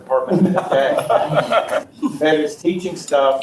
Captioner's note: audience laughs